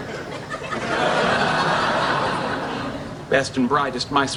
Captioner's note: laughing